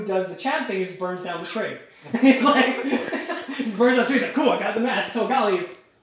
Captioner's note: chucklilng